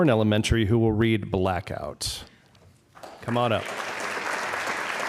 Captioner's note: applause